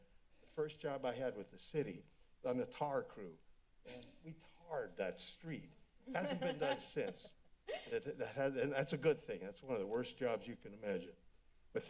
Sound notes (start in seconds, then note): 6.1 laughter